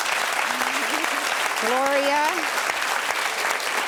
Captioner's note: audience cheering